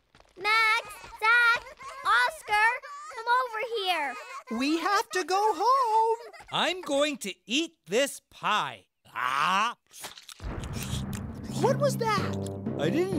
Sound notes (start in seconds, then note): 6.5 Jelly Beans arguing